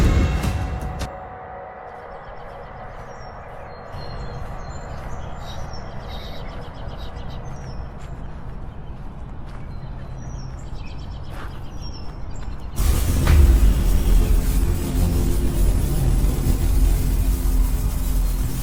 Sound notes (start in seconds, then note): 0.0 unsettling music; 2.1 birds chirping; 12.8 electricity buzzing